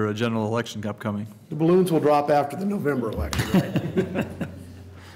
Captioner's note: laughter